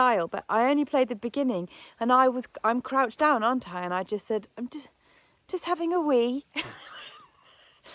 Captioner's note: laughs